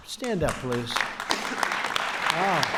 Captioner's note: applause